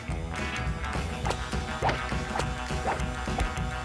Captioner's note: whacking